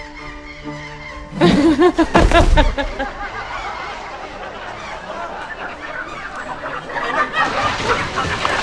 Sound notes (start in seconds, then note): 1.1 Marian laughs; 4.4 crowd laughs